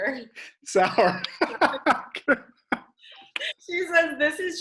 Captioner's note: laughs